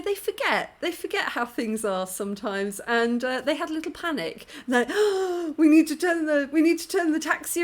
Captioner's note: gasp